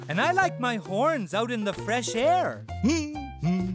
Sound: Hamilton sighing

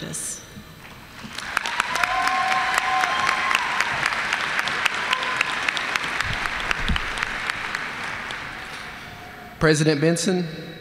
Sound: applause

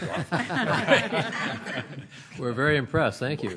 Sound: laughter

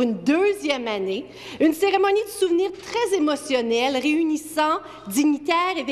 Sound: speaking French

